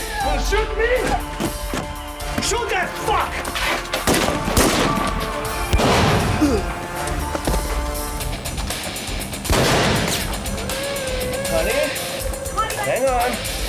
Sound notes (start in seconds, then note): 4.0 guns firing; 9.4 firing continues